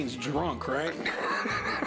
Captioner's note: laughs